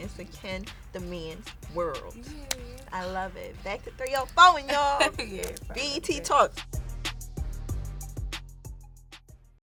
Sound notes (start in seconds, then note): 4.3 laughs; 6.9 upbeat music